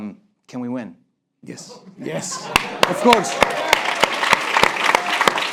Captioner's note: applause break